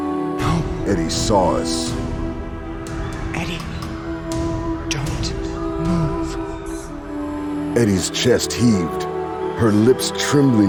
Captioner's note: hushed whisper